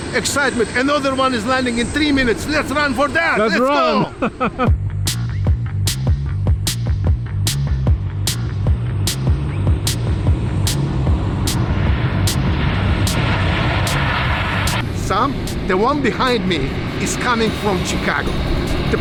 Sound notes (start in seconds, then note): 4.8 energetic music; 9.5 jet engine roars